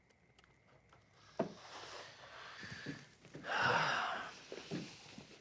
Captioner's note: sighing